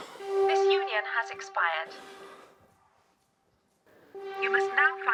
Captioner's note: robotic Voice